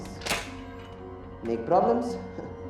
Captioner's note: safe latch clicking